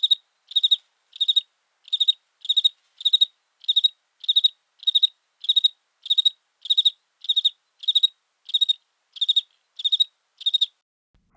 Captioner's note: crickets sound